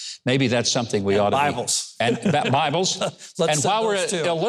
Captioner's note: chuckles